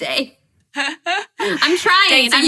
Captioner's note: laughing